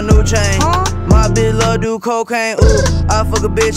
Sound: brr

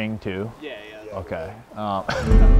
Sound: chuckles

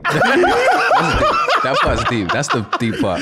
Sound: laughing

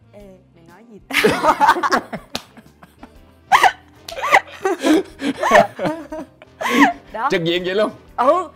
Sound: laugh

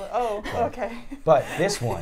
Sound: chuckles

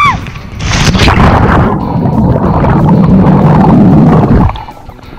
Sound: water splashing

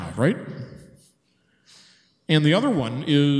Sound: man chuckles

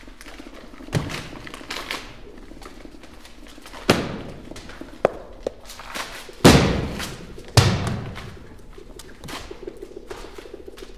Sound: pages ripping

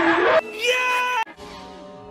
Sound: mike wazowski scream

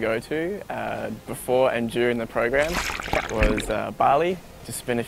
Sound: water gurgles

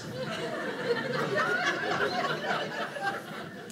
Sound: audience laughing

